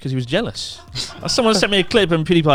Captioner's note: announcer laughs